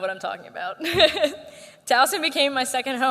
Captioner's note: laughter